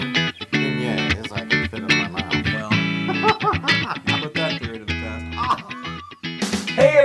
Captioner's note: laugh